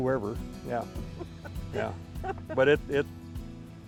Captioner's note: laughing